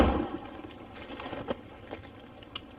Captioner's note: banging